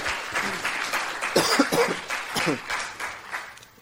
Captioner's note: applause; cough